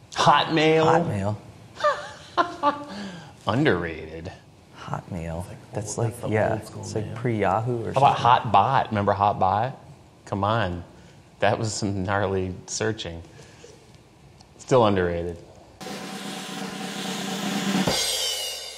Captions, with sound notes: - Hotmail? - Hotmail. [laugh] - Underrated. - Hotmail? [murmering] That's like- yeah. It's like pre Yahoo or- - How about Hotbot? Remember Hotbot? C'mon, that was some gnarly searching. Still underrated. [drums play]